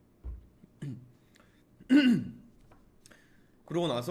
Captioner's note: cough